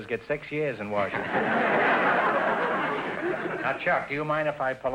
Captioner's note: audience laughter